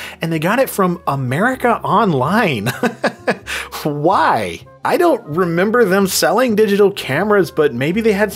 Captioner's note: laughs